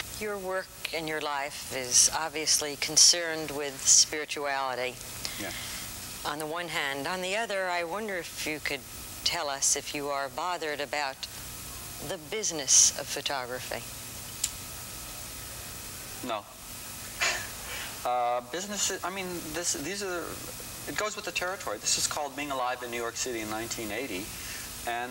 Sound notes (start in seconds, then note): 17.2 laughs